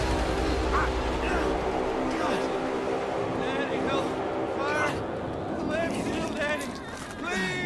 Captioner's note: loud bang; game audio; disembodied voice